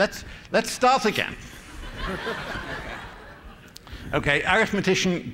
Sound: laughter

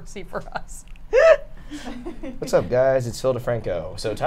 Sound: laughs

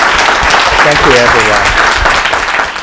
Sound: applause

